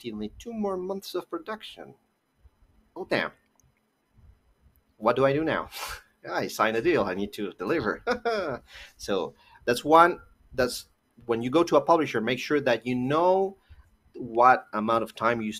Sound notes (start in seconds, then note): 7.9 nervously laughs